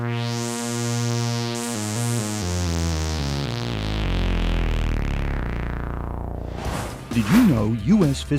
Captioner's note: sound Effects